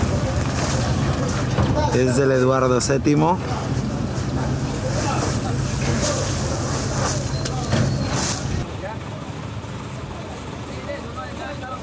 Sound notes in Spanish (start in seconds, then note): 0.1 Camiones y personas trabajando